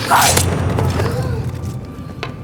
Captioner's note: gasp